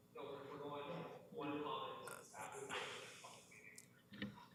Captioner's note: chatter